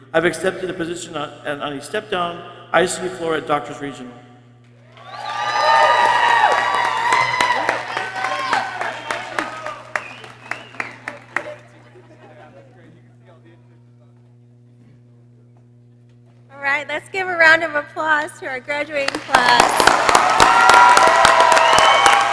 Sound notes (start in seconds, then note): 4.8 people cheering; 9.9 people chattering; 18.9 people cheering